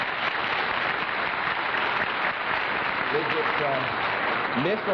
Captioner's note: applause